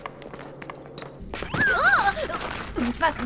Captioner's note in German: Schreckenslaut